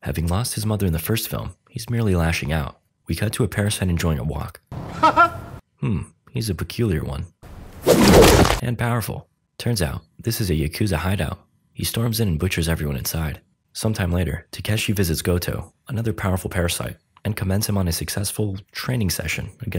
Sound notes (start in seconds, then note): 5.0 Parasyte laughing